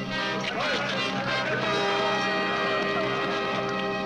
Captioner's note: all shouting